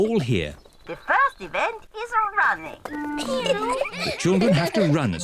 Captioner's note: kids giggle